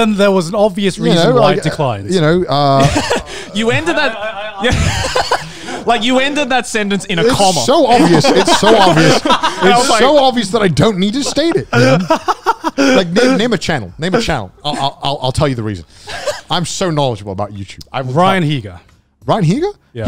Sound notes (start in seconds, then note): 2.6 laughs; 8.8 laugh